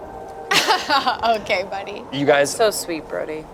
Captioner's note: laughs